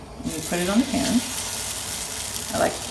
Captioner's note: sizzling